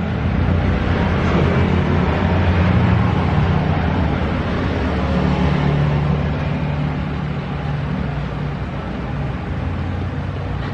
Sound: engine sound

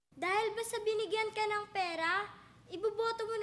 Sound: none

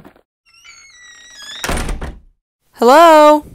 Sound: walking sounds; door squeak sound

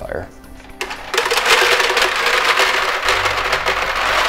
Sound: balls clacking

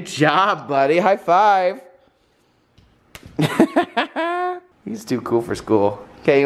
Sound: laughing

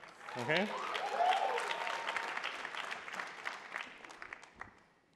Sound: attendees applauding

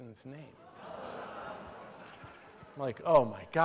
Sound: laughter

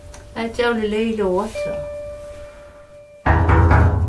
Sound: speaking in Samoan; knocks on container door

